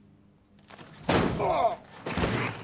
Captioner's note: John groans